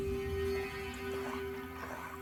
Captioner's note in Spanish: Ladridos